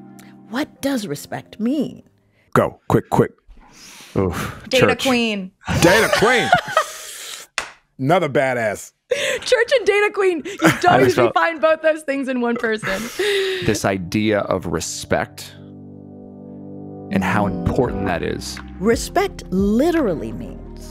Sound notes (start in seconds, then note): 5.7 laughs; 15.5 gentle music; 20.0 gentle music